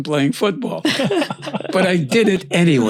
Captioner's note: laughs